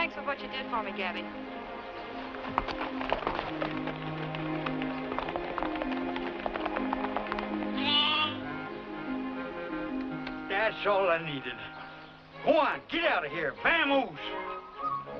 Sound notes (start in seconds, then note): 7.7 bleating